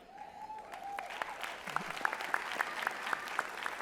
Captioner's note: applause